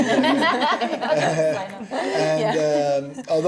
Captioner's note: laughing